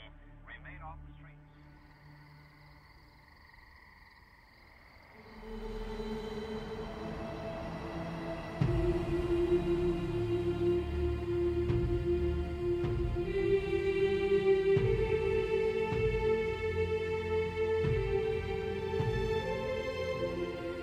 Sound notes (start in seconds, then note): 2.4 crickets chirping; 5.5 dramatic music